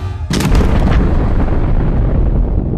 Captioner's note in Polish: Boom